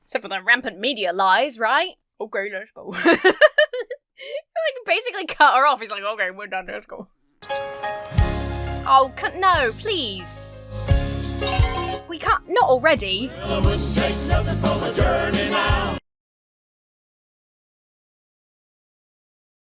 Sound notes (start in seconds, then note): 2.9 laughs; 11.3 cow bell rings